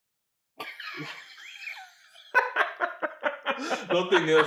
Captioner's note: laughs